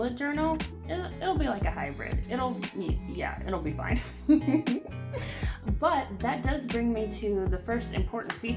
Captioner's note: laughs